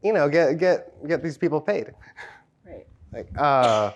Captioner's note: laughs